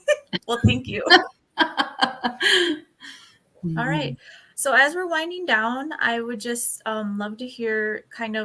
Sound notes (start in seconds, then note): 1.6 laughter